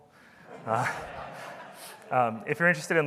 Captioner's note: audience laughing